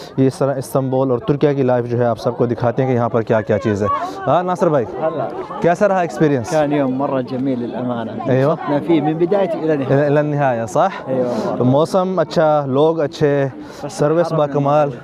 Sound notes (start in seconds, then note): 6.6 Arabic